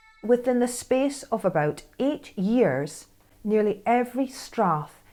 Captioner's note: Scottish accent